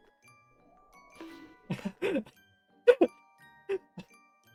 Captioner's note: laughing